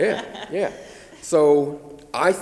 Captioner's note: laughs